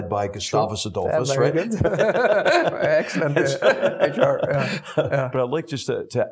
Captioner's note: laugh